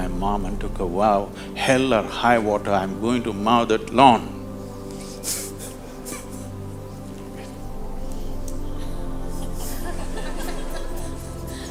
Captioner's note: laughter